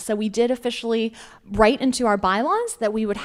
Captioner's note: none